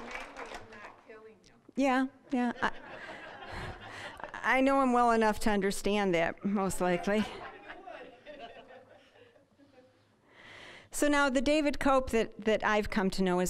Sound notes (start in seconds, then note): 2.5 audience laughing; 6.8 audience laughing